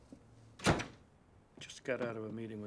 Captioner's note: door bangs